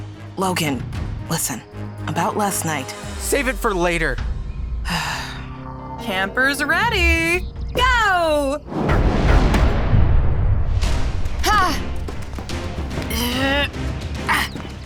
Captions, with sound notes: Logan, listen, about last night-- Save it for later. [sighs] Campers ready? Go!